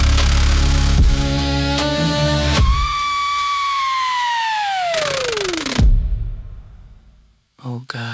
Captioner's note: Tape Voice screams a long, blood-curdling scream that dissolves into static